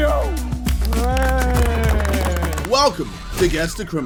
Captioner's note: panel applauds